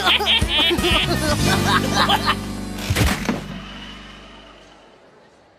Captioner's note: both laughing